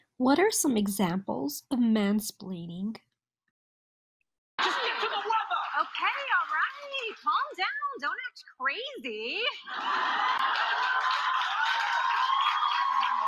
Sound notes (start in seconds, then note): 9.5 audience laughing